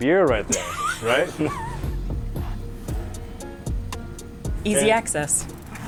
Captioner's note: laughing